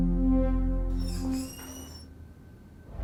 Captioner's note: door squeaking